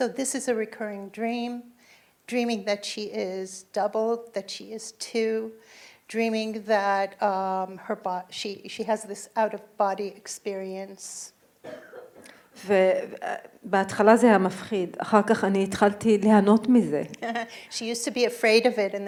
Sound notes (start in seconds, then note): 12.7 speaking in foreign language